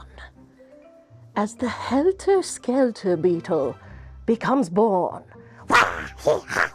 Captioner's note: growls